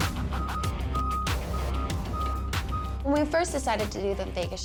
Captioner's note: truck beeping